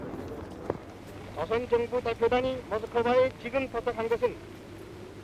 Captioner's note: speaking korean